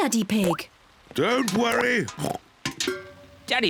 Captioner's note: oinks